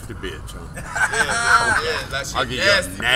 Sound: laughter

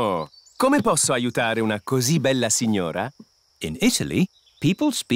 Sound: speaks italian

